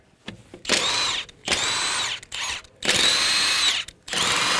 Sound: drill squealing

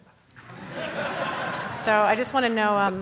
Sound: audience laughing

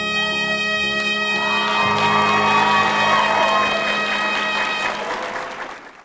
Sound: cheering

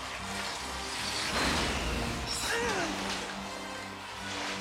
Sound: grunting

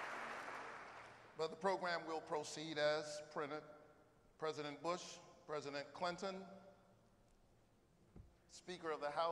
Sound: applause

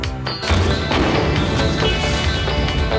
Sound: explode

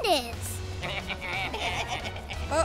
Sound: baaing

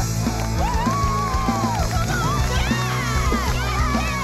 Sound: everyone cheering

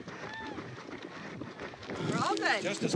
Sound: running shoes hitting the ground

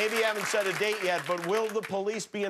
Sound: cheers and applause

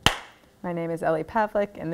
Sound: claps hands

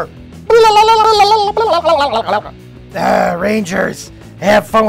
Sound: making gibberish noises

